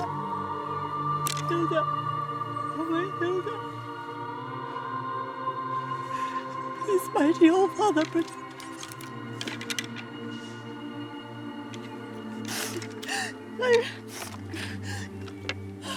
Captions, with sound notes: Hilda, oh my Hilda. (gentle music) Please, mighty oh father, protect my baby. (gentle music) (crying)